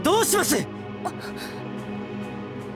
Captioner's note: gasp